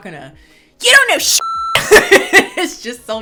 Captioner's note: beep; laughing